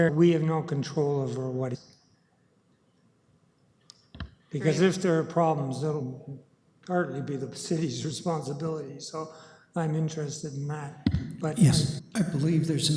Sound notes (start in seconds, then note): 3.5 audio drop